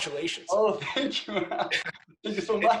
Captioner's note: laughs